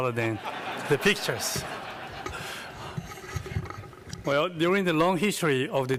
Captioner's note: laughter